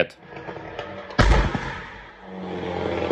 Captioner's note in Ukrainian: вибух